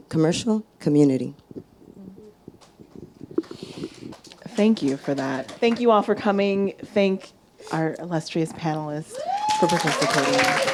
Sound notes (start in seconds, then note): 4.8 audience applauding